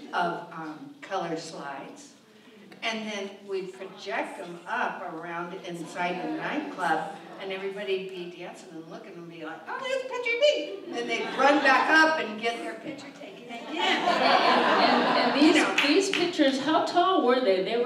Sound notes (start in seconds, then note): 13.6 audience laughs